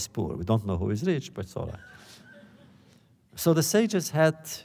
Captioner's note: laughter